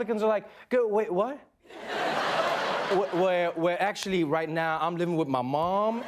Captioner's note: laughter